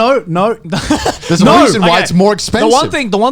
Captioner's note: chuckling